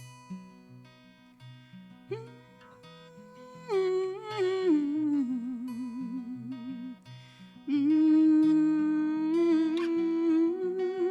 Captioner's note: humming